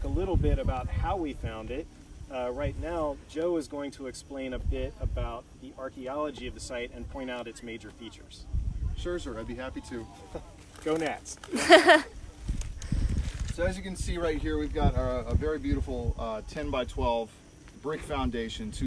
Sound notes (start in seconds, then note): 11.5 laughing